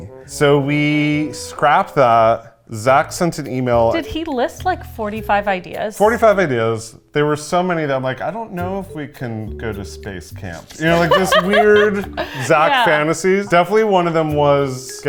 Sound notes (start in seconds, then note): 10.8 laughs